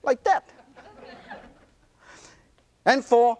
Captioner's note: audience laughter